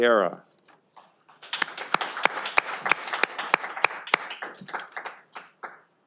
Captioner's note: audience applauding